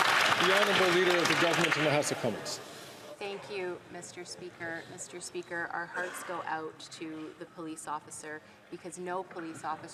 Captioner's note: some Applause